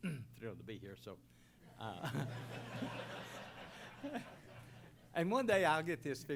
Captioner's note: laughter